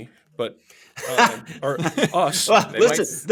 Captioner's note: laughter